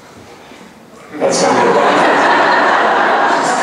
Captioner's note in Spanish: laughs